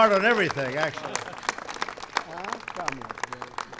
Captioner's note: applause